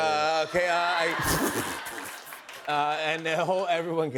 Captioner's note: laughter